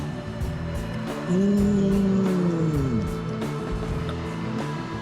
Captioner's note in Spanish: haz un sonido como si tuviera muy buen sabor